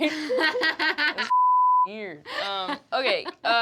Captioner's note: laughter